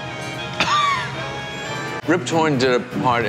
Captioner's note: laughs